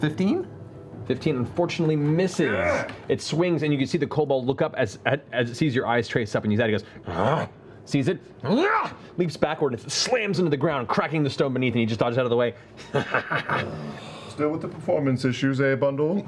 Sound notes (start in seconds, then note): 7.1 growl; 12.8 laughs